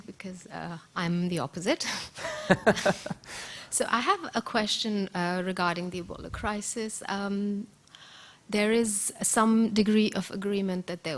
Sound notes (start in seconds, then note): 2.2 laughing